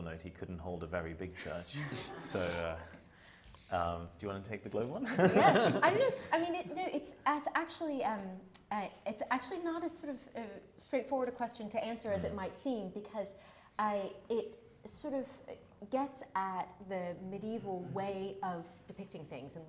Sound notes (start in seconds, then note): 1.7 audience members laughing; 4.8 laughs